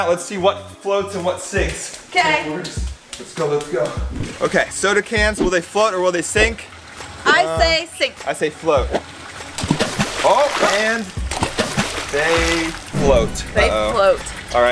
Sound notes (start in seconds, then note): 9.6 water splashing